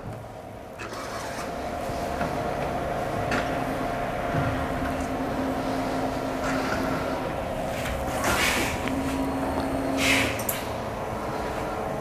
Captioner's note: printer machine noise